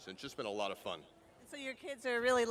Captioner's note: none